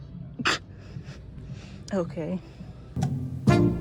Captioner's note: chuckle